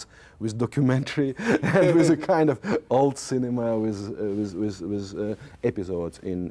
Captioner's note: laughs